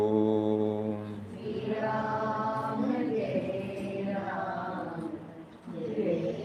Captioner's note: audience chanting